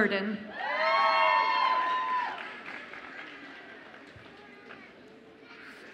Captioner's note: audience applauds and cheers